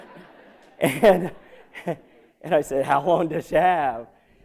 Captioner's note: laughter